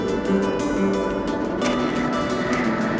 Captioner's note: wind howling